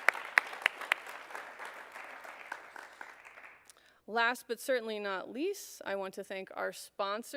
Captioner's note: applause